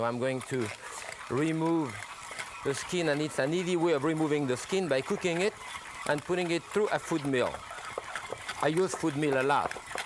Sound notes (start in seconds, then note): 7.6 food mill whirring